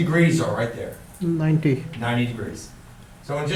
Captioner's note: voiceover